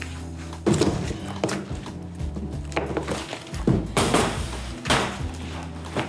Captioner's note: metal table banging, sticky rolling, and music